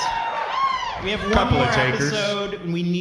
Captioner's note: audience cheering